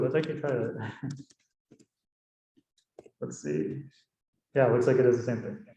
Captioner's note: chuckling